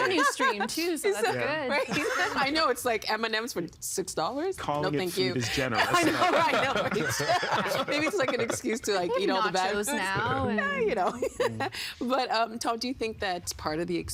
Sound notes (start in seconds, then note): 5.8 laughing